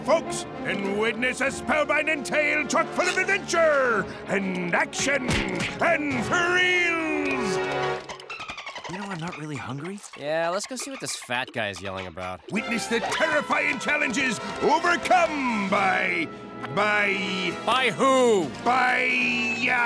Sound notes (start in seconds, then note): 7.3 dolphin clicking noises